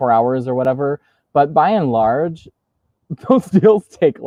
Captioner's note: laughs